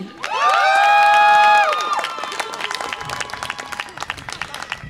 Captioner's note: audience applause and cheer